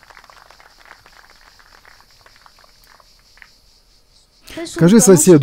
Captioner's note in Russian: Аплодисменты